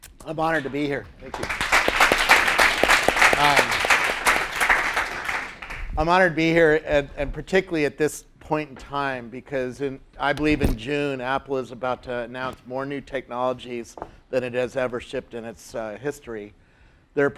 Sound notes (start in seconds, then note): 3.9 applause